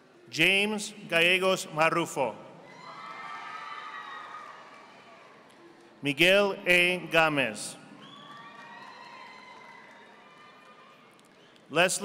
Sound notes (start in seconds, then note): 3.1 audience applauding; 8.0 audience applauding